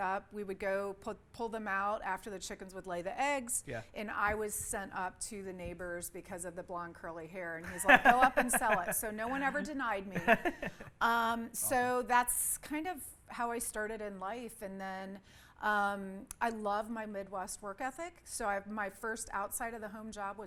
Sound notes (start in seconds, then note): 7.6 laughs